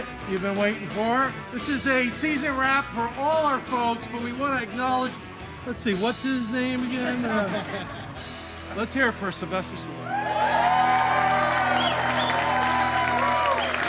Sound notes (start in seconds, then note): 7.0 everyone laughing; 10.0 everyone applauding and cheering